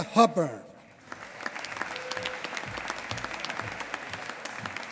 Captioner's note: applause